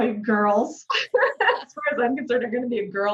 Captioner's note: laughing